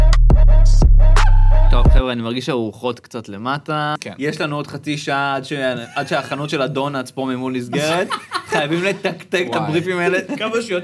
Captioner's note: laughs